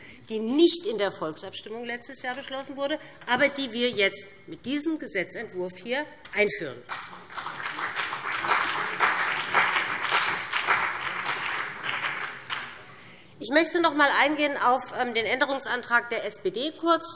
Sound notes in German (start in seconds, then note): 6.8 Beifall BÜNDNIS 90/DIE GRÜNEN und CDU